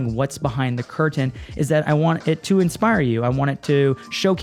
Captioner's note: none